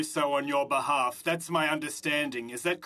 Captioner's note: speaking French